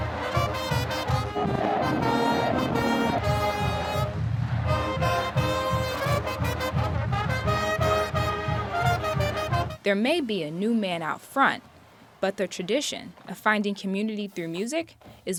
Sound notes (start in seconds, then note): 0.3 dramatic trumpet music; 4.8 crowd hollering